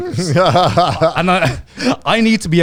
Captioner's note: laughing